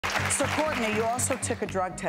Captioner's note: audience applause